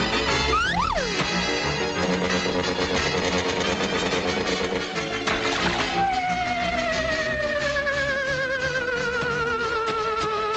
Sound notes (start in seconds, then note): 4.2 water splashing; 7.2 frenzied music